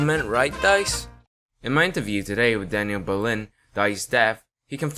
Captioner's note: my attempt at a British Accent